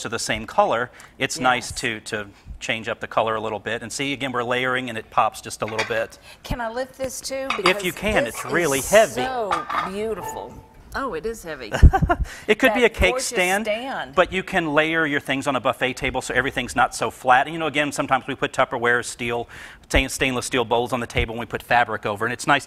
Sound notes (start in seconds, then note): 7.4 plates clinking; 11.7 laughs